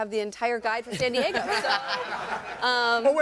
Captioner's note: all laughing